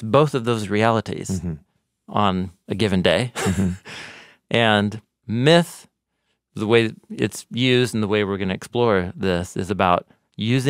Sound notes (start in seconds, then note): 3.3 laughs